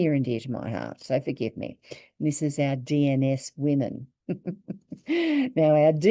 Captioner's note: chuckles